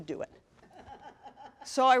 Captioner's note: laughter